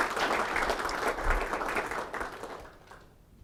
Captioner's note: applause